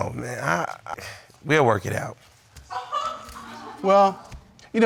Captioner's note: audience member laughs